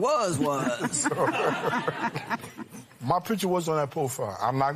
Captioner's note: laughter